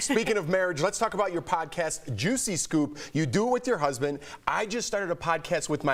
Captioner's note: laughter